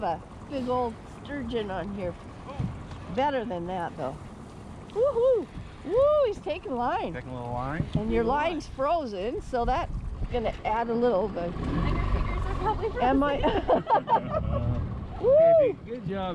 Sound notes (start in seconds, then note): 13.2 laughing